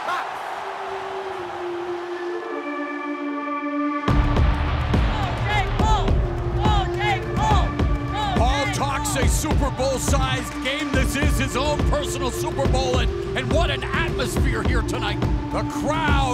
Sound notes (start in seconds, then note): 5.0 chanting